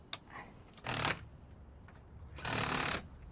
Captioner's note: drill whirs